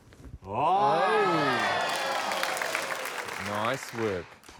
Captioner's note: cheering, applause